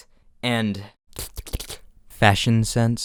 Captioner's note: licklicklick